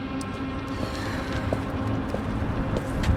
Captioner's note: sighs